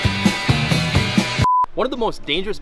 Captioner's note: electronic beep